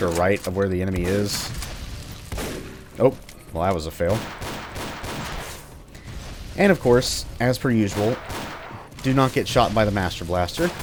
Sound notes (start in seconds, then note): 4.7 45 Revolver bang bangs